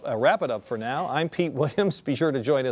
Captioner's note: chuckles